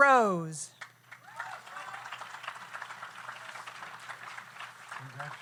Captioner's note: audience applauds